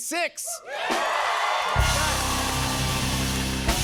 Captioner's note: cheers and applause